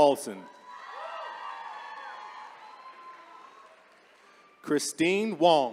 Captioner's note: attendees cheering